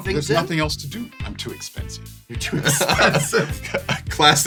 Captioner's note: laughing; laughs